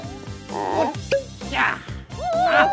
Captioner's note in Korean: 낑낑